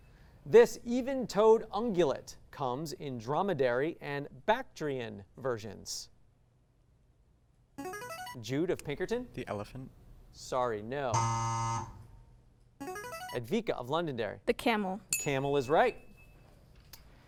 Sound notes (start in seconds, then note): 7.8 signaling device tone; 11.2 buzz; 12.8 signaling device tone; 15.1 ding